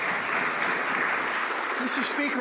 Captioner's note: some Applause